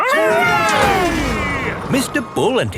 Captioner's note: all cheering